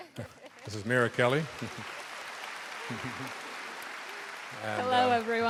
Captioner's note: laughs